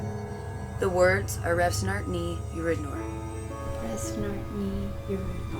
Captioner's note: speaking in foreign language